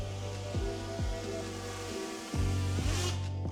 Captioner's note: drill whirring